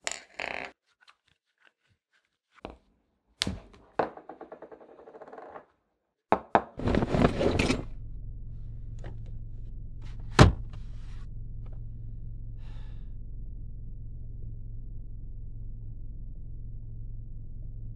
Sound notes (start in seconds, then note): 12.6 sighs